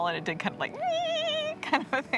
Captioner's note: imitates a bird call